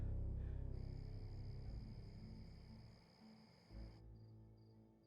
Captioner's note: insects chirping